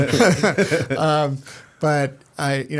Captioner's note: laughter